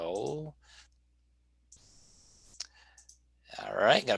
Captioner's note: clicking